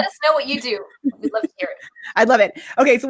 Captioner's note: laughs